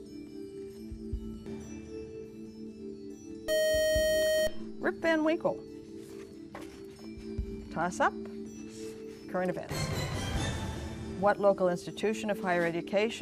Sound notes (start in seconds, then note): 3.5 buzzer